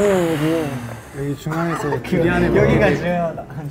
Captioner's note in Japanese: ふうーーー